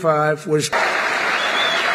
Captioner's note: applause